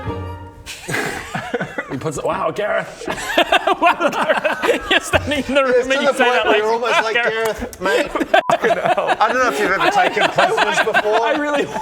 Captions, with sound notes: *prankster giggles* He puts it...wow Gareth Wow Gareth! You're standing in the room - and you say that like wow Gareth - it's to the point where you're almost like Gareth mate f***ing hell I dunno if you've ever taken prisoners before I really